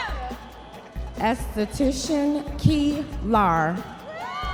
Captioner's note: audience members cheering